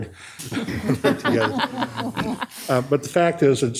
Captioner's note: all laughing